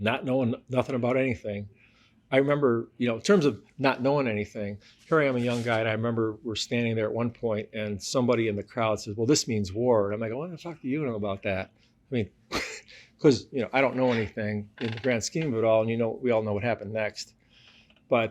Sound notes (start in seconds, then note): 13.9 laughs